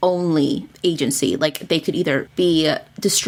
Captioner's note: none